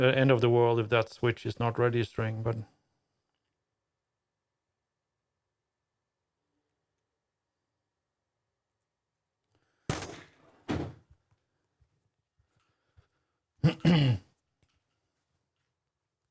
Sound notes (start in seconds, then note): 8.0 clears Throat; 8.0 wood Thuds